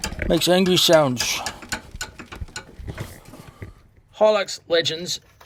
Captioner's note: part clinking